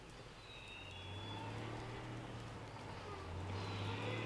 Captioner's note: vehicle humming